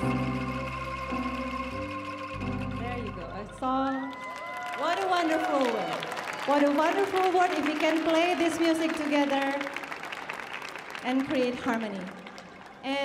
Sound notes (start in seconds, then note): 3.8 audience cheering